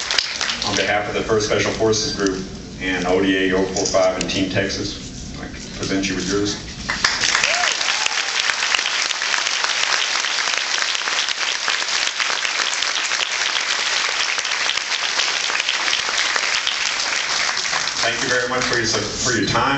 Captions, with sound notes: on behalf of the First Special Forces group and ODA-045 and Team Texas I present you with yours. [applauds] Thank you very much for your time